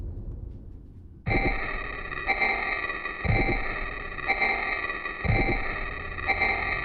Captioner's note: soft musical score; eerie distorted music; heartbeat thumps